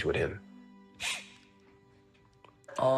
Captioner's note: sniffs